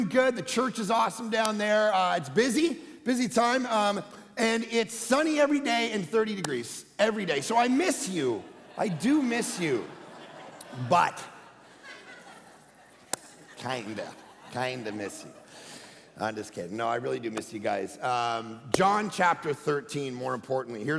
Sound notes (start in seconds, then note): 9.3 congregation laughing